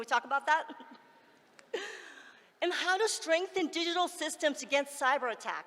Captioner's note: laughs